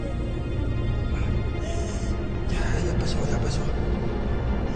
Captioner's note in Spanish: Sollozos